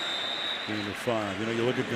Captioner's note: whistle